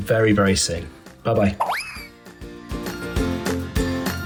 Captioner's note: cartoon zooming; upbeat music